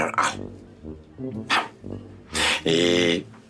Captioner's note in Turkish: Ağlama sesi